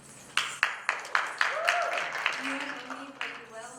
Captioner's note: applause